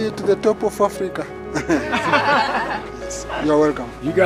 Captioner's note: laughter